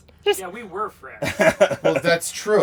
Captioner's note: laughs